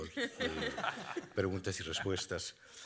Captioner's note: speaking Spanish; laughing; speaking Spanish